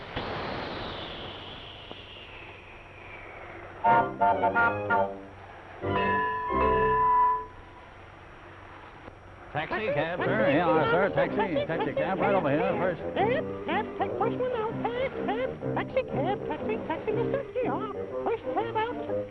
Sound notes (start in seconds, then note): 4.2 train whistle blowing " "; 10.0 chattering